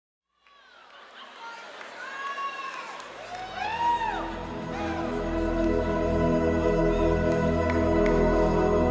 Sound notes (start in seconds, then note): 1.9 crowd whooping; 6.0 ethereal music